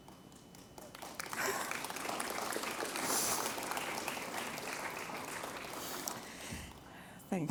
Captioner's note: applause